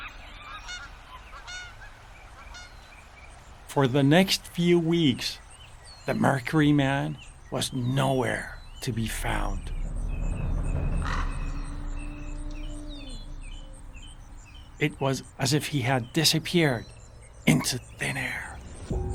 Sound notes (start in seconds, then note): 0.0 jungle animal mating call; 8.5 drums; 11.2 crow cawing; 12.6 birds chirping; 18.9 cymbal music